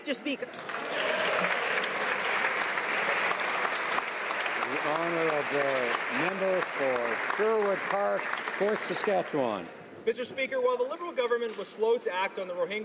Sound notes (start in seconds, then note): 7.4 some Applause